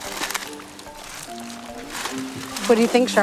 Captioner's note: quick upbeat music; foil crinkling